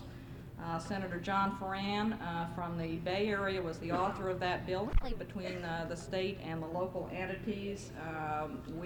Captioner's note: camera noise